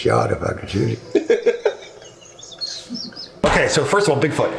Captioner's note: laughing